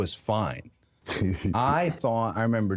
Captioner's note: Jey laughs